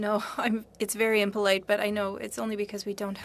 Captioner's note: speaking french